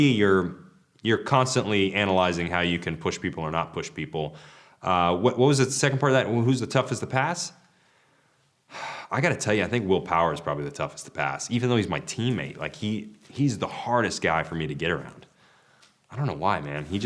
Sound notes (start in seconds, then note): 8.7 sighs